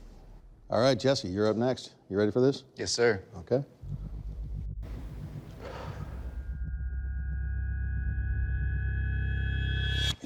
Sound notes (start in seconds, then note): 5.5 sharp exhale; 8.0 intense music playing